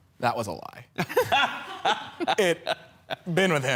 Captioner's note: laughing